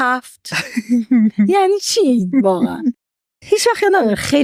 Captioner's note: laughs